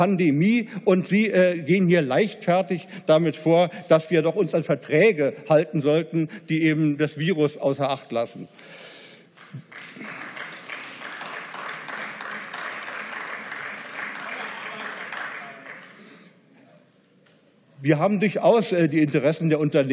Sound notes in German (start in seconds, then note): 9.3 Beifall